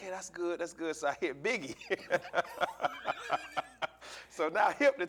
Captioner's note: laughing